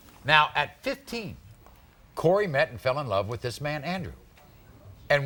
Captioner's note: none